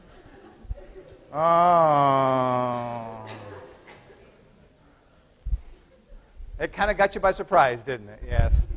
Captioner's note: groan